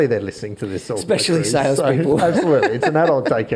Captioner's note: laughs